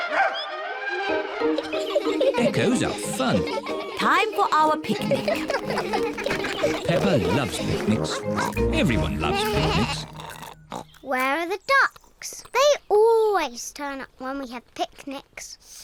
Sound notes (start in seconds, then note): 2.0 all giggling